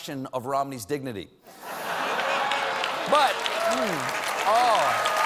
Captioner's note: cheers and applause